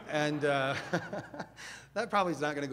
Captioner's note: audience laughs; laughs